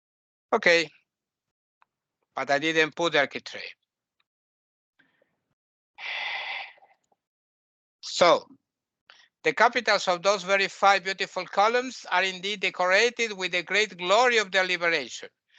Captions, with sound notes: Okay. But I didn't put architrave. [sigh] So... The capitals of those five very beautiful columns are indeed decorated with the Great Glory of their Liberation.